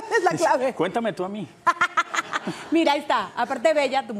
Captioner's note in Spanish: Ríe